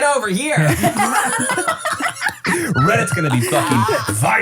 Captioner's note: everybody laughs